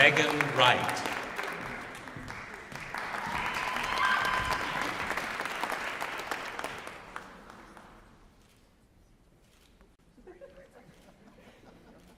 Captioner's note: applause